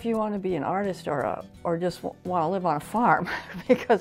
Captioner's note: chuckles